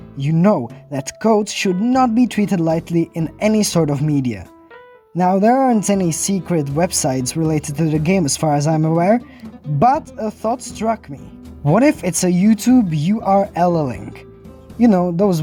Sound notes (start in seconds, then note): none